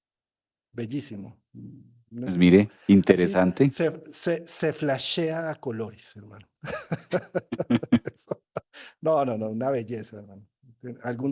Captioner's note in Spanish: risas